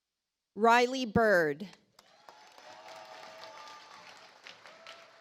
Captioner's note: audience applauds